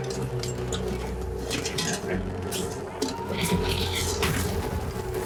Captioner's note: water pours